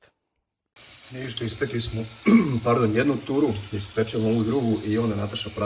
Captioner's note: he coughs